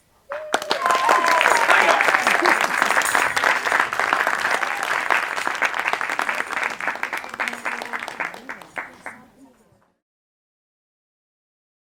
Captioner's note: applause